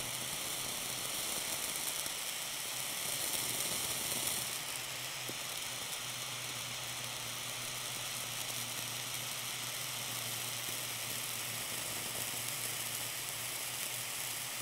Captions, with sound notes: *crackle crack* man this video is long